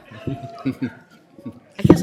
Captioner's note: laughter